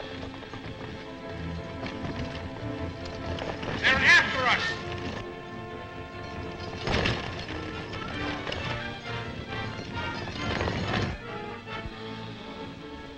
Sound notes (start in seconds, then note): 6.0 horses galloping